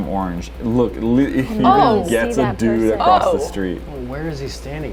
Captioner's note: disgusted noises